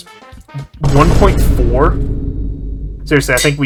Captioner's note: vine booming